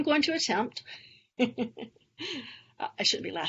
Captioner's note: laughs